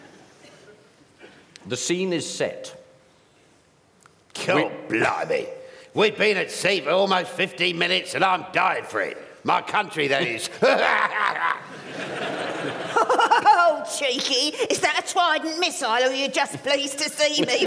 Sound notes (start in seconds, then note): 10.6 guffaws bawdily